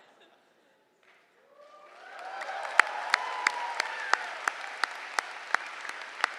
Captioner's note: laughter; cheering